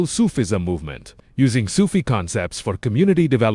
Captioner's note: spiritual breathing